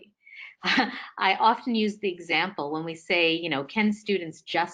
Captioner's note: laughing